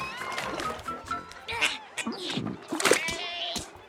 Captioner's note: Milo grunts